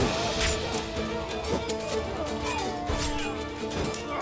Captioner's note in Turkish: Kılıç sesleri